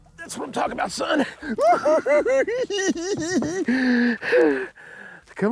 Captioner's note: giggling